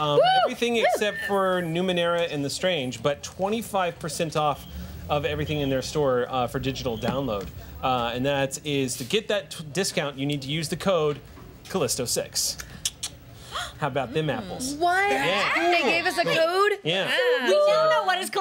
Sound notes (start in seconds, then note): 13.3 gasps